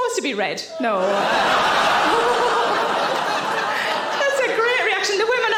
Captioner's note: audience laughing